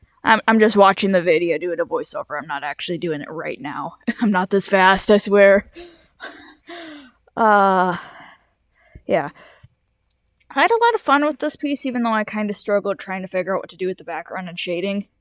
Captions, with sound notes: I- I'm just watching back the video and doing the voice-over I'm not actually doing it right now- I'm not this fast I swear-- *Soft laugh* Uhh- yeah- I had a lot of fun with this piece even though I kind of struggled trying to figure out what to do with the background and shading